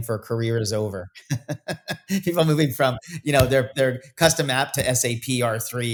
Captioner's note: laughs